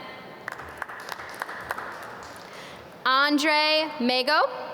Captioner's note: audience clap